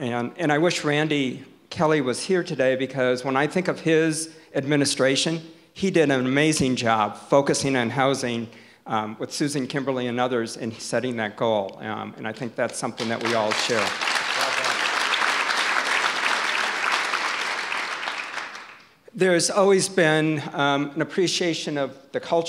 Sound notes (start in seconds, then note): 13.0 audience applause